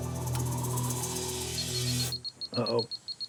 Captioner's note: beeping